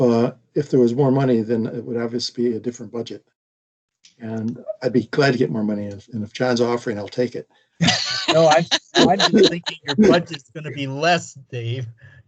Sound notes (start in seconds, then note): 7.8 all laughing